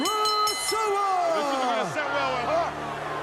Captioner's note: bell ringing